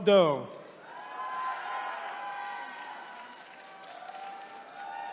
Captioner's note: attendees cheering